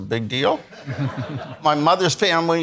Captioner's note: attendees laughing